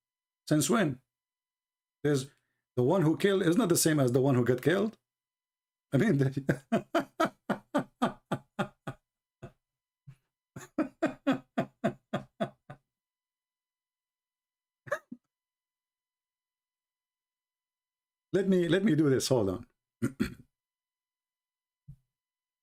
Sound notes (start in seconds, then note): 10.5 Ketawa